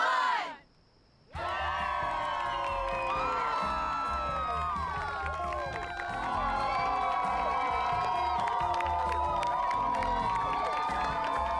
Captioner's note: crowd cheers, claps